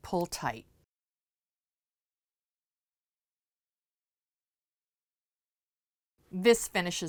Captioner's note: no Sound Present